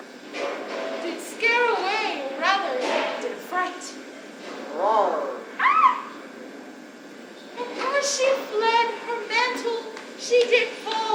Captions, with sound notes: did scare away or rather did affright. (lion roars) (Thisbe screams) And, as she fled, her mantle she did fall,